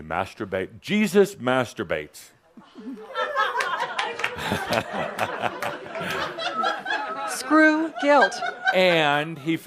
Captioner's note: some laughter